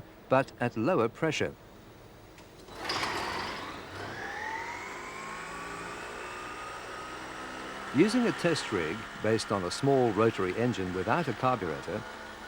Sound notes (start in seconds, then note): 3.5 engine humms